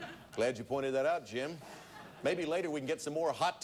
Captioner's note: audience laughing; audience laughing